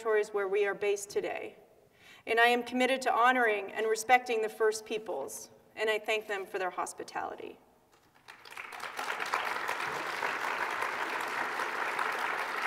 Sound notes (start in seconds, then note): 7.9 applause